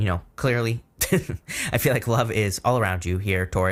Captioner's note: chuckles